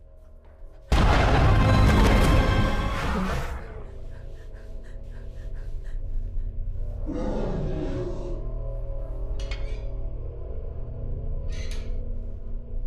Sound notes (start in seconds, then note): 0.2 sudden ominous music; 3.6 Heather breathing heavily; 7.0 monster growling; 10.0 metal clanking